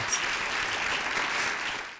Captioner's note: audience applauding